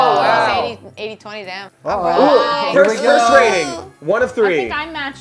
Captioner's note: surprised groans; overlapping chatter